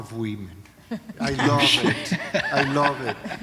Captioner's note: laughter